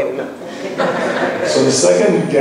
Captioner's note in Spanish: laughs